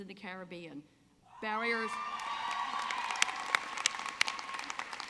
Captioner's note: audience clapping